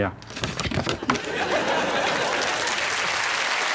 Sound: audience laughing

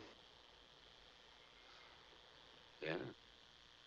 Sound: exhales

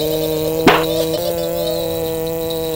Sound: giggling; slam; giggling; vw motor and bells jingling

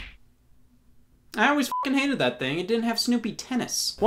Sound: beep

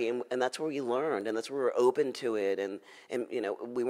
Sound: none

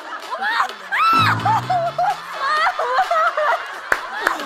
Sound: genuinely screaming

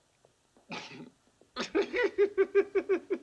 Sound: chuckling

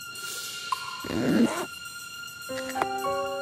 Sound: zipper closing

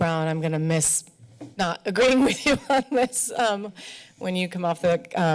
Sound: laughs

